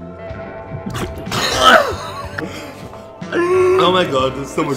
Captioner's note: choking